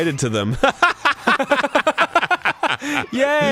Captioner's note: fake laughs